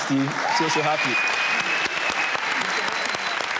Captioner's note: audience claps